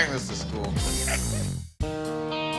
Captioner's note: laughs